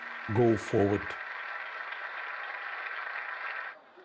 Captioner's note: applause continues